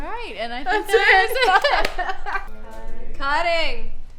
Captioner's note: laughs